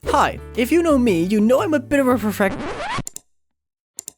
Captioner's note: record scratch